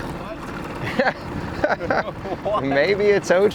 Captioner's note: both chuckling